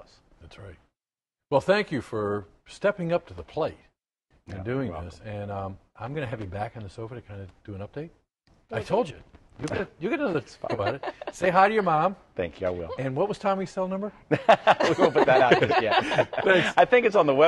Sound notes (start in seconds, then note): 10.3 laughter